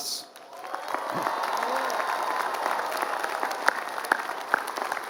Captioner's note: applause